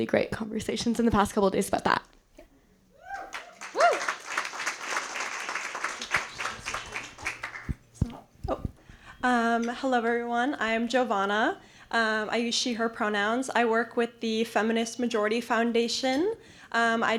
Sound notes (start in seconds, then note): 3.2 appluase